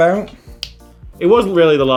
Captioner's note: snaps fingers